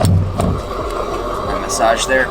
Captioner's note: gas whooshing